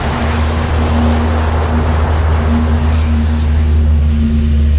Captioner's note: ship humming